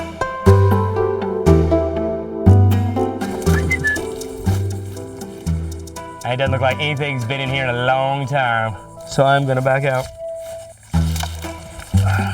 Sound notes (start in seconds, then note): 3.6 whistling